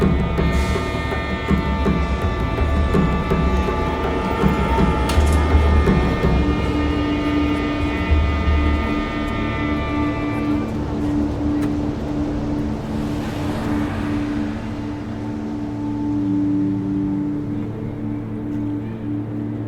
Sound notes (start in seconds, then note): 1.6 dramatic music; 1.6 traffic roars; 12.5 moves into slow ambient music